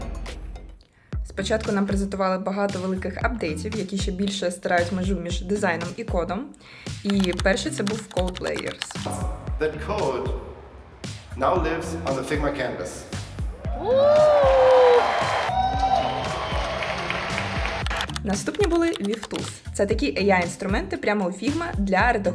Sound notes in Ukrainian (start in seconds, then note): 13.9 оплески